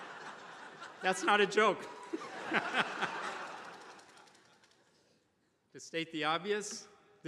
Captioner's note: attendees laughing; laughs; attendees laughing